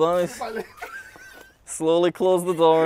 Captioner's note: laughs